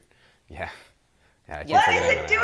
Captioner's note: chuckles